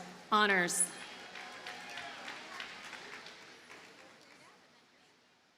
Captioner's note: audience cheers and applauds